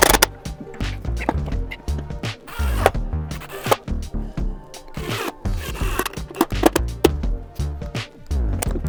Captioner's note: drill whirring